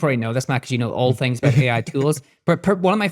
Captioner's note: chuckling